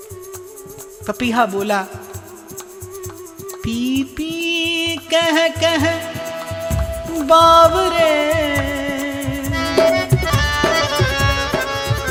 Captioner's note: cuckoo bird